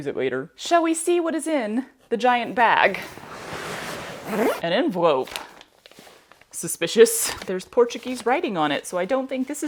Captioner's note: swish, zip